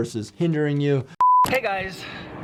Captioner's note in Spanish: pitidos